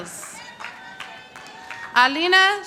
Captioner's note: audience applauding